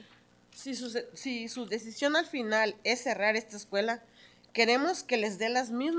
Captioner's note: speaking in Spanish